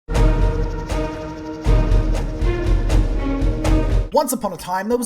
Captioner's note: very fast speaking incoming